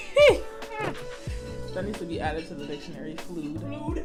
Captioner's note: laughter